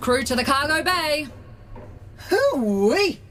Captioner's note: Sim sighs and joins the others